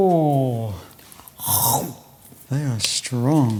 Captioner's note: crunches